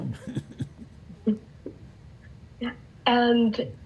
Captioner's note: laughing